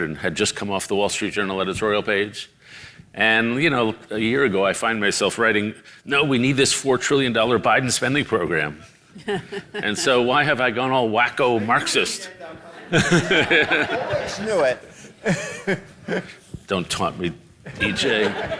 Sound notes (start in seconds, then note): 9.1 laughs; 12.4 audience laughing; 17.7 audience laughs